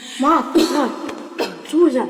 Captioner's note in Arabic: سعال